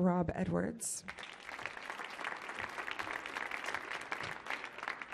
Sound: audience clapping

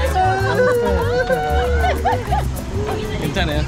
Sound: chuckled

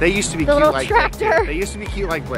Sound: laughs

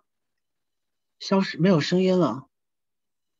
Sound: Mandarin

